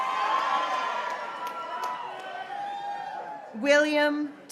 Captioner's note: graduates cheering